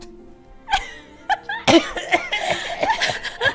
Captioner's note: laughter